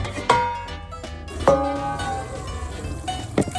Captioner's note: pan banging; water flowing